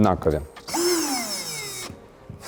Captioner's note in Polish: dźwięk wkrętarki